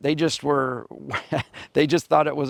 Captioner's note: chuckling